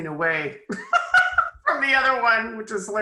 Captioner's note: laughs